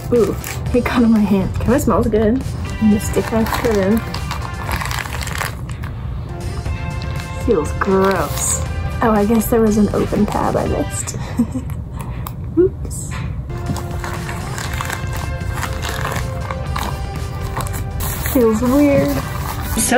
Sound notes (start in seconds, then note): 3.0 plastic crinkles; 11.1 giggles; 13.5 plastic crinkles